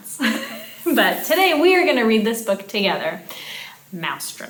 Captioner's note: chuckling